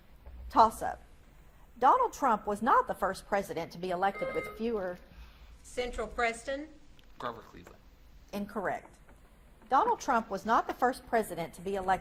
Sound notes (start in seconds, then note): 4.1 buzzer beeps